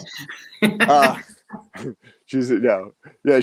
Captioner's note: chuckles